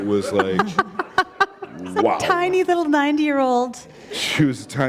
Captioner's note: laughter